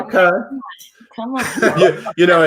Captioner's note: laughs